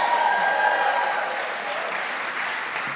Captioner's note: audience cheering